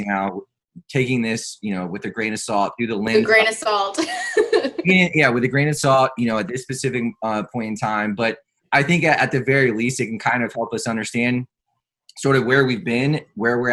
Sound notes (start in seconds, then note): 4.0 laughs